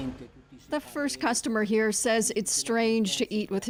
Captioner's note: speaking Foreign Language